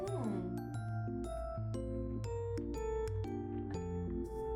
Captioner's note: sobbing